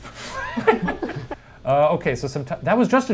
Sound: group laughs

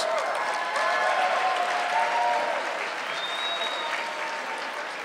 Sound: audience clapping

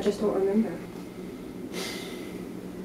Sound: heavy sigh

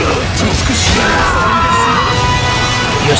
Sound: KO Scream

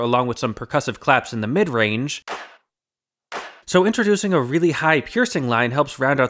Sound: bang

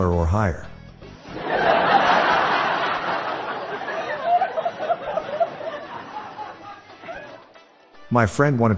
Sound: laughter

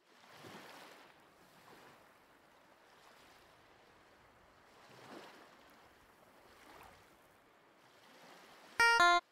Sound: sound of waves

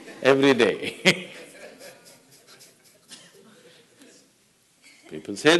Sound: laughter

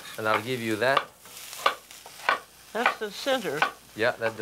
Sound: knife chopping

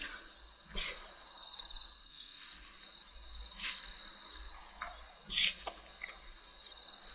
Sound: insects chirping; tools scraping

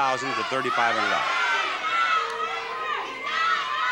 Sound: shouting

